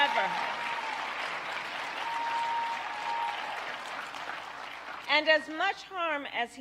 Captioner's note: applause